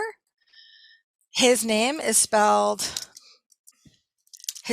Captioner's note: keyboard clicking